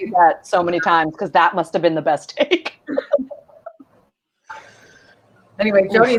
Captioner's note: snickers